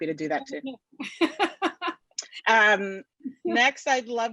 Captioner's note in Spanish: laughs